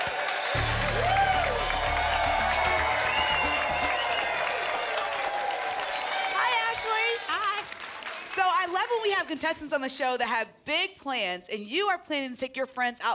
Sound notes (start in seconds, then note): 3.9 applause and cheering cont